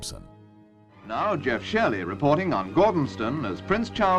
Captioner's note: voiceover